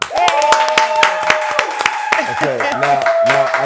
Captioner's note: applause